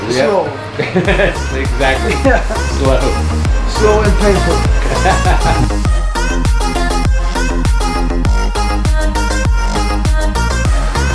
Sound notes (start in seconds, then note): 0.6 laughing; 5.2 laughing; 6.2 electro-pop music